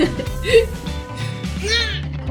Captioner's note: laughing